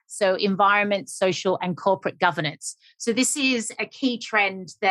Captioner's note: none